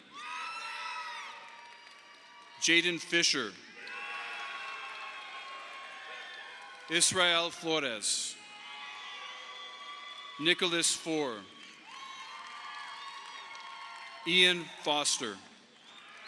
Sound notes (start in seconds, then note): 0.1 audience applauding; 4.4 audience applauding